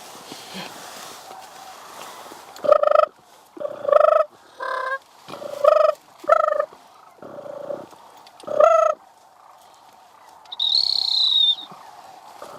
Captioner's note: crane calls